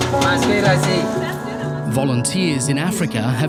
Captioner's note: unsettling instrumental music; people speaking in foreign language